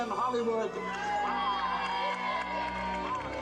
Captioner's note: people cheering